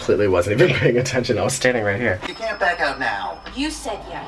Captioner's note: chuckles